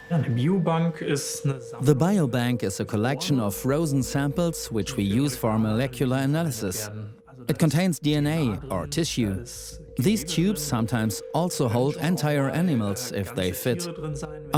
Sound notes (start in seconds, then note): 0.2 in German; 1.4 dubbed in English